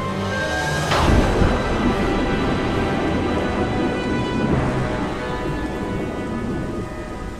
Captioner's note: ominous music continues; logo thuds